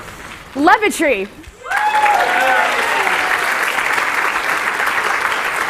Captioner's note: applause